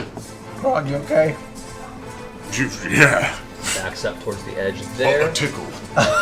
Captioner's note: scoffs